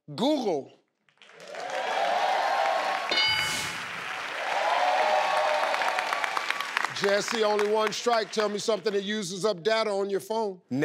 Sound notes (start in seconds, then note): 1.6 cheering; 3.1 ding